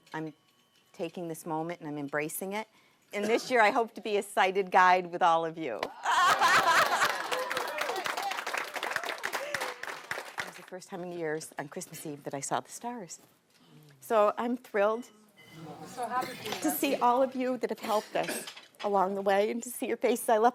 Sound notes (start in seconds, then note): 5.8 laughing and applauding